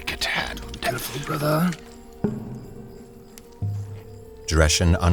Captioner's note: moist sloshing sounds